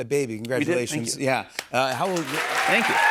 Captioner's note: cheers and applause